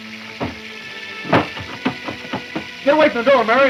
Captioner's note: door rattles